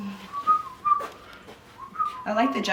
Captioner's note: shuffling; whistling